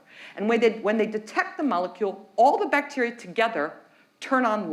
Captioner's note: none